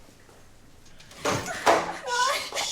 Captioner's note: cabinet door opens